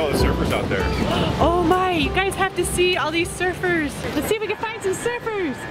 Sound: gasps

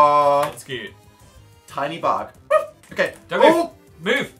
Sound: barks

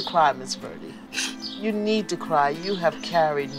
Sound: crying

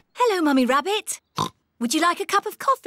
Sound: oinks

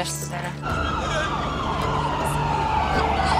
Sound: siren sounds

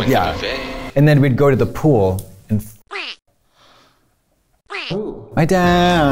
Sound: gasps

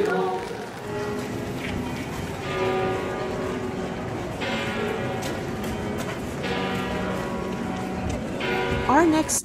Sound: church bells ringing

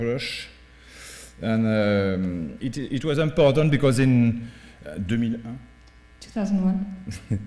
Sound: french

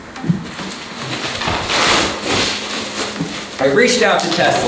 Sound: crumpling

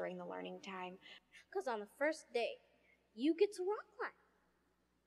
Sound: girl talking

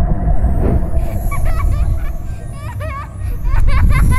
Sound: laughter, sounds of magic

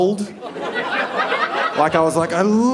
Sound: audience laughing

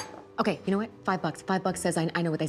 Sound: fork clanks

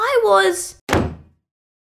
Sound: slam!

